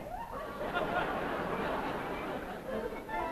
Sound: audience laughs

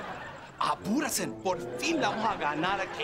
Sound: speaking in Spanish

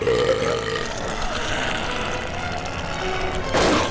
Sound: belching; growling

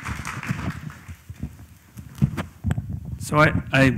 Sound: applause

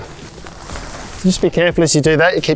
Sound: tent rustling

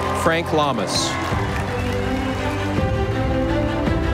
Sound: audience applauding

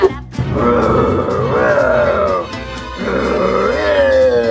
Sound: laughs evilly; monsters groan and growl

